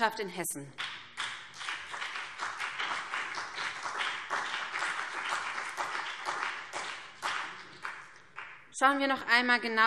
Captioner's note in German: Beifall